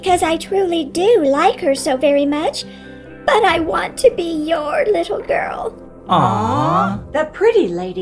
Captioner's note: awwww!